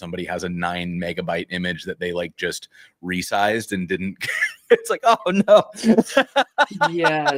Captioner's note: laughter